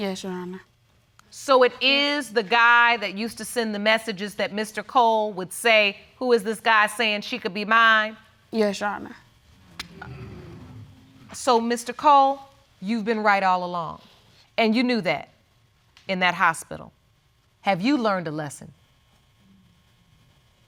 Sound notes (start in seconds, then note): 10.3 audience exclaiming